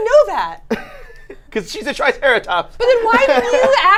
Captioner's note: laughs